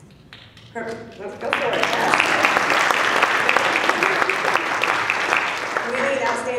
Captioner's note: applause